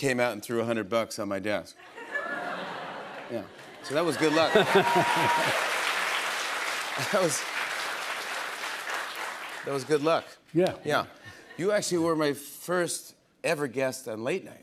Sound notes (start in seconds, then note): 3.9 laughs; 5.6 cheers and applause